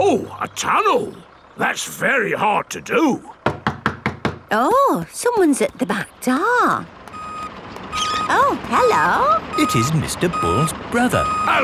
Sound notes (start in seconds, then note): 3.4 knocking at door